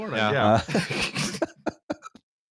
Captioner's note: laughter